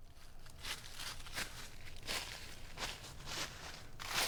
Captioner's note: rustling leaves